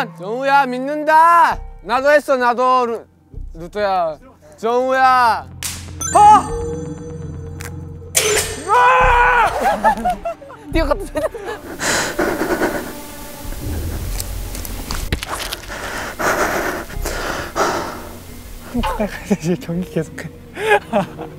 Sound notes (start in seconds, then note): 15.3 more heavy breathing